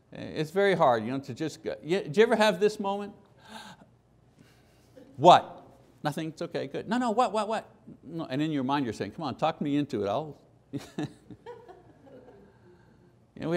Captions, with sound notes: It's very hard to just, did you ever have this moment? [loud gasping] What? Nothing, it's okay, good. No, no, what, what, what? And in your mind you're saying, "Come on, talk me into it, I'll." [laughter]